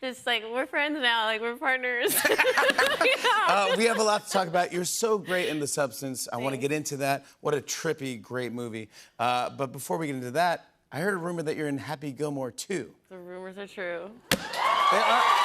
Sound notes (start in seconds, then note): 2.0 laughter